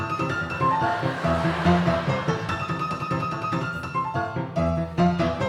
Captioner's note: audience laughing